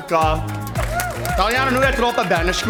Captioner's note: speaking Italian; cheering; speaking Italian